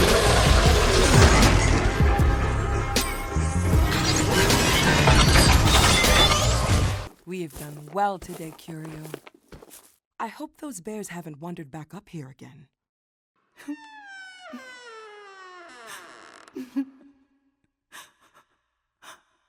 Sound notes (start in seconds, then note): 13.6 door creaks open; 16.5 Sycorax sobbing